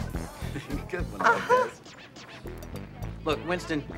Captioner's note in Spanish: riendo